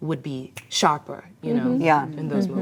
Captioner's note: ladies reacting